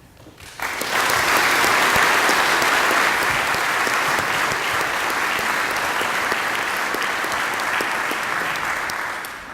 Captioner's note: applause